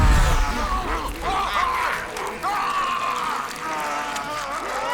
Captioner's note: loud snarling